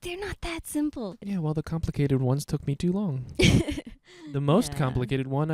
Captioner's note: laughing